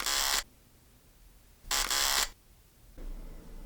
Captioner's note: camera clicks